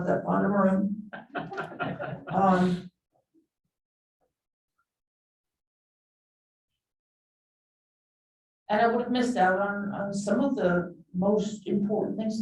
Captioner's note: chuckling